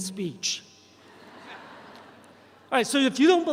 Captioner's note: audience chuckles